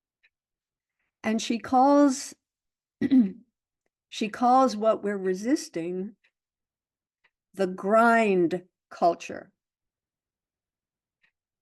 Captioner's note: clears throat